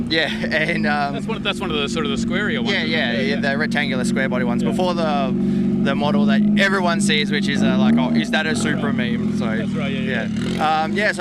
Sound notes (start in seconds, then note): 0.1 chuckles; 7.8 engine revving